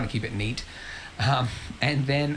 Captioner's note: laughs